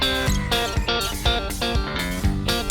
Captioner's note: snaps